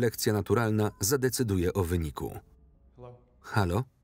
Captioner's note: beeps